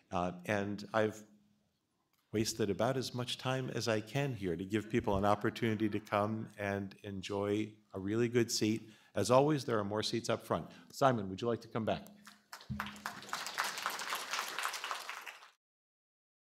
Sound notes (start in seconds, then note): 12.2 applause